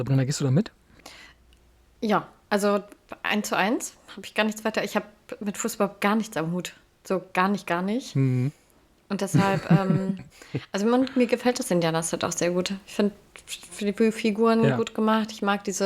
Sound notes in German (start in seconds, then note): 9.3 gelächter